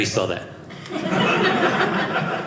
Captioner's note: audience laughing